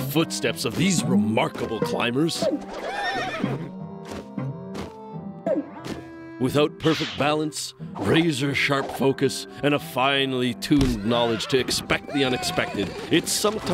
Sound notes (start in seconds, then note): 2.5 whinnies